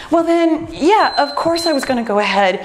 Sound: timer beeps

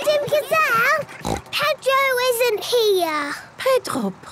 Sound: snort

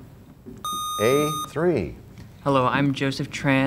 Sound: sound of a buzzer

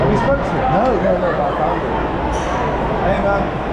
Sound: crowd chatting and cheering

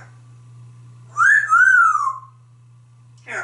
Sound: whistle

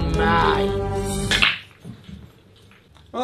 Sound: pool balls clack

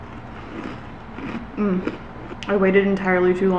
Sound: cereals crunching

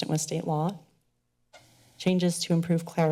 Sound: pause

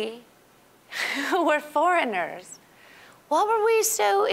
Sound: chuckling

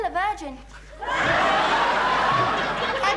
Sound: audience laughing

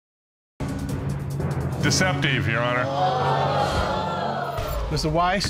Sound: audience exclaiming

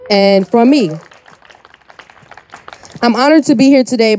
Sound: audience applauding

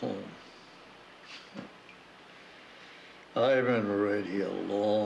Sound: clears throat

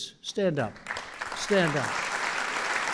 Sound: applause

